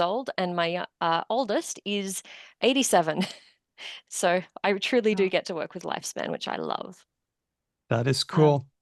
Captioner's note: chuckles